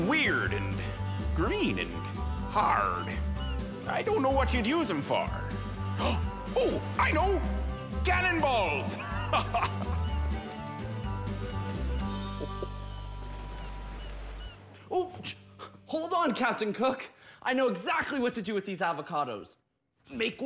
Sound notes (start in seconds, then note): 5.8 gasps; 8.9 laughs